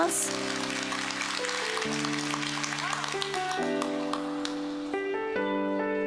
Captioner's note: applause